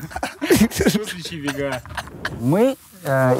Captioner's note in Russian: смеются